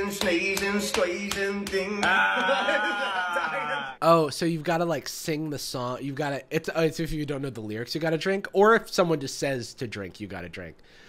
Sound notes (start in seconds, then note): 2.0 laughs